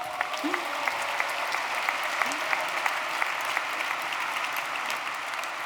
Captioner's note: applause